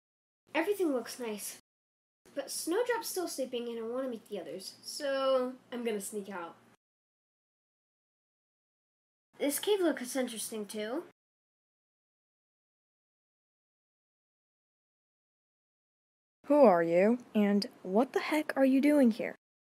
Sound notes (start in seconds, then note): none